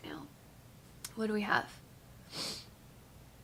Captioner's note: sniffles